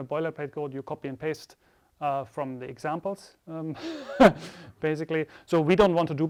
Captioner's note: chuckles